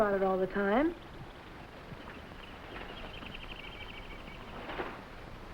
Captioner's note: animals chattering